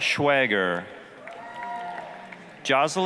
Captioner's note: applause, cheering